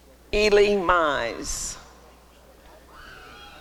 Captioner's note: applause and cheering